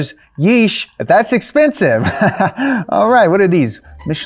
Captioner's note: chuckling